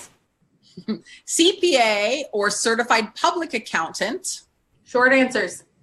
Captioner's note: laughs